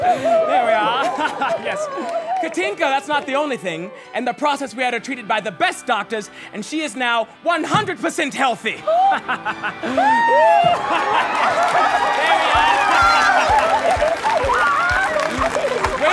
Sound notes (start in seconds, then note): 8.9 gasps; 10.3 laughs; 12.8 cheering; 13.4 laughing and crying